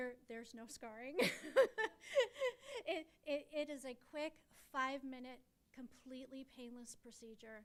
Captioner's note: laughs